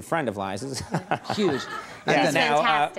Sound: Conan chuckling

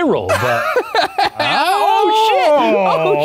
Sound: laughs

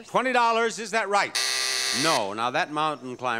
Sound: buzzing

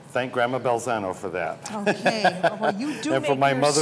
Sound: laughs

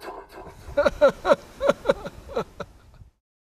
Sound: laughter

